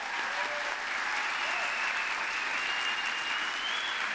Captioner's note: applause